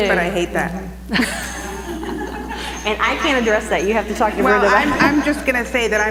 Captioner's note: laugh